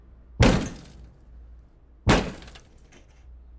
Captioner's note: objects crashing and shattering